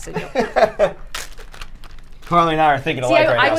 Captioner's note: laugh